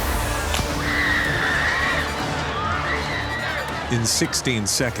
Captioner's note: screaming